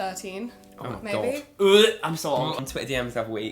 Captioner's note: gags